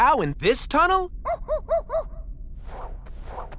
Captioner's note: monkey noises